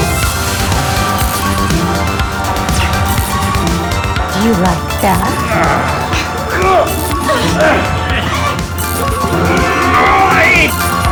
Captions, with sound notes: - Do you like that? (both grunting)